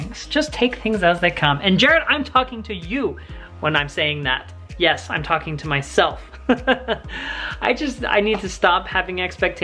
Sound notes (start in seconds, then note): 6.3 laughs